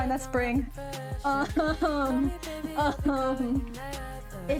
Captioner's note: shocked and confused noises